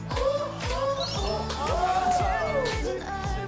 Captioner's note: seductive